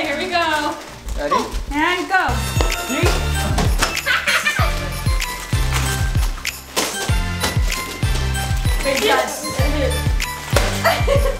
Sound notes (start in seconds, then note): 3.1 upbeat music; 6.7 present smacking